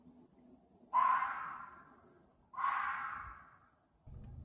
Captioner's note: animal bellowing